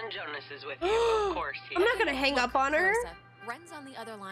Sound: gasp

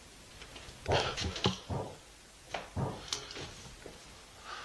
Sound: banging

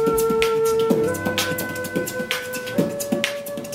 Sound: beat-boxing

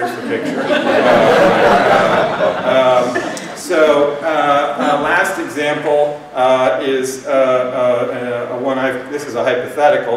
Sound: laughter

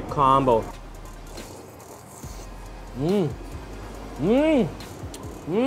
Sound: slurping

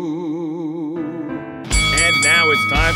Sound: bell clangs

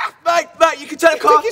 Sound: yelps

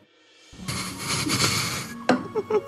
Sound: more Laughing

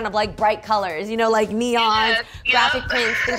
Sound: laughing

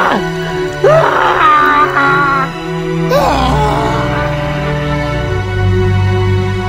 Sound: Gus yells

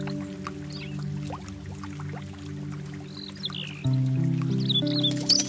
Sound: bird flying around

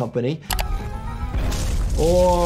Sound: mouse clicking

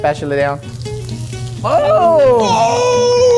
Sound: shrimp sizzles

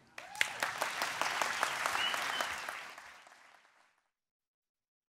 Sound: applause

